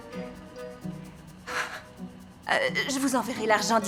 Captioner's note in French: soupirs